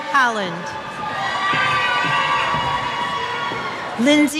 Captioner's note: cheers